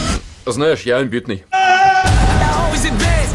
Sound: screams

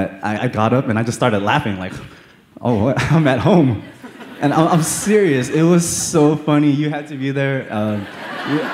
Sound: laughter

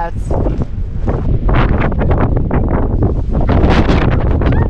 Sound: wind gusting; girlish squeal

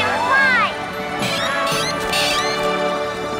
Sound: squeaking

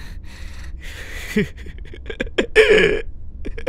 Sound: Pradhik laughs

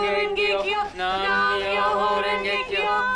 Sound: chanting

